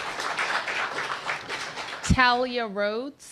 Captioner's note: applause